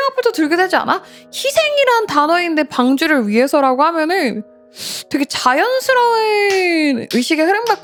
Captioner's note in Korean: 콧방귀